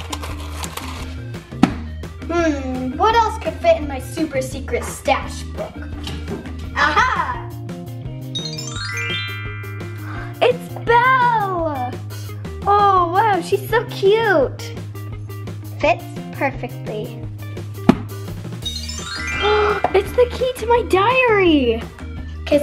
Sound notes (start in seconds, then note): 1.6 thuds; 8.4 twinkling; 17.8 thuds; 18.6 twinkling